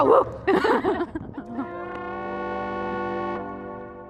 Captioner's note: laughing